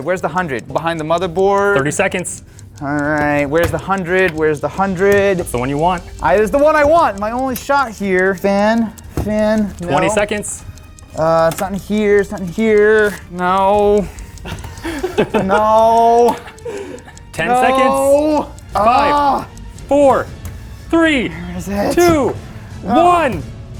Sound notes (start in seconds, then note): 14.6 laughing